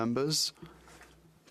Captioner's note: speaking French